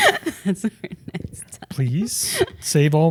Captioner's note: laughing